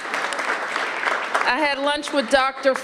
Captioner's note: applause